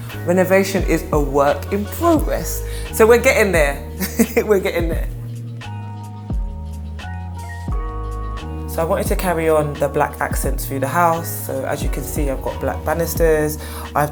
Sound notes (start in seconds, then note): 4.0 laughing; 6.0 upbeat music